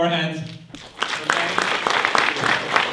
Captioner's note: clapping